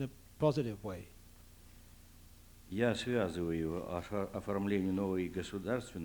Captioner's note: non-english speech